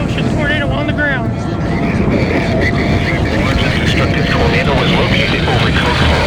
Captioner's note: radio chatter